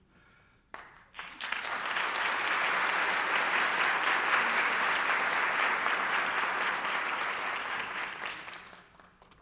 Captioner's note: applause